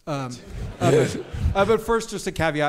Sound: audience laughs; chuckles

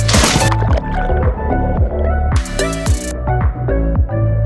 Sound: water splashes

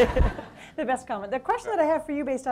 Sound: audience laughs

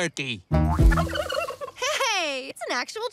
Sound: chitters

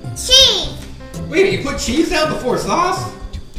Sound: voiceover

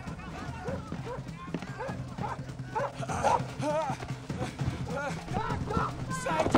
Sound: people yelling and dogs barking

